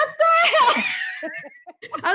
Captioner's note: laughing